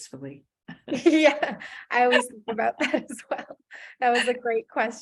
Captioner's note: laughs